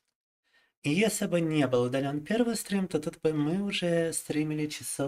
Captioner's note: speaking in foreign language